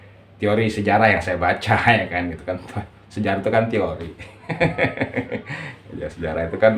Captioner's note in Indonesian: tertawa